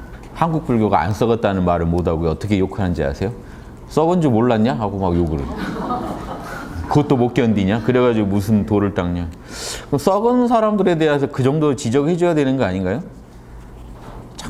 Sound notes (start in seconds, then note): 5.3 laughters